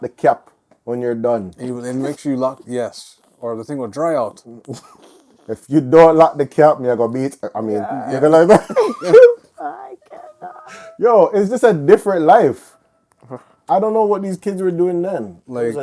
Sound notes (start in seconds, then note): 7.6 laughing